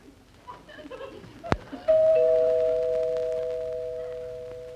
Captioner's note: door bell dings